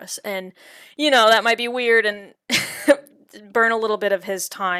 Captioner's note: chuckles